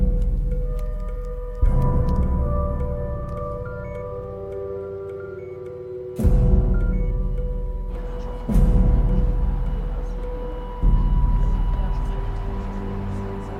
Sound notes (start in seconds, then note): 3.2 device beeping; 9.5 all chattering; 13.3 dramatic orchestral music continues